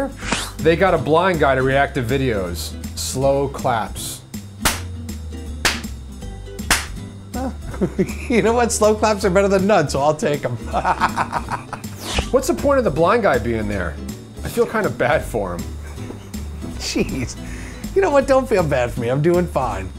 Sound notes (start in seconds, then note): 4.4 clapping; 10.6 chuckles; 15.8 snickering